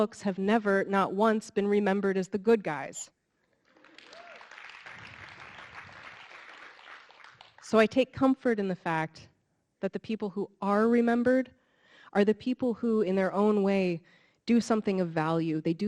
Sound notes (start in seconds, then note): 3.6 audience clapping